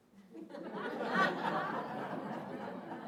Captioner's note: audience laughing